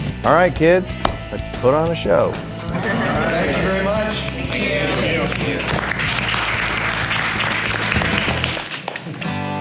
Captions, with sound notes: All right, kids. Let's put on a show! All right! Thank you very much! Thank you! [Applause]